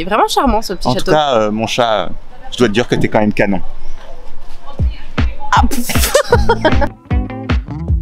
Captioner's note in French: Rires